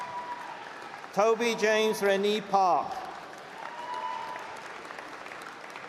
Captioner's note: applause